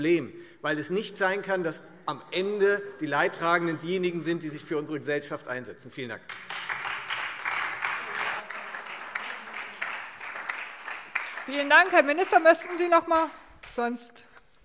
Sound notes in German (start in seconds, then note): 6.2 Beifall Freie Demokraten, SPD und DIE LINKE